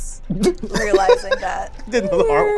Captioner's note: laughs